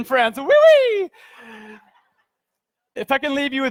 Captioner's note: speaking in foreign language